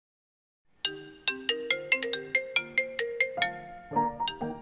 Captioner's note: phone pealing; jaunty music